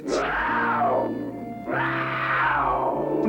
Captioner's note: lion roars